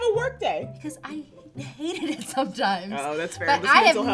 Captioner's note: laughs